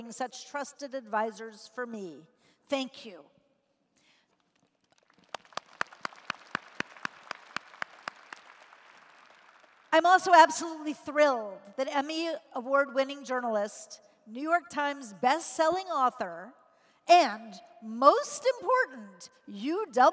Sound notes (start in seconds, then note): 4.3 applause